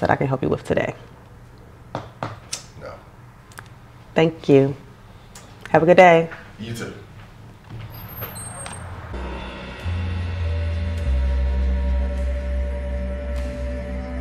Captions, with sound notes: that I can help you with today? - No. - Thank you, have a good day. - You too. (hinges squeaking). (tense suspenseful music)